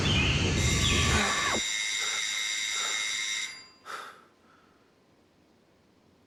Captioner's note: doorbell rings; pants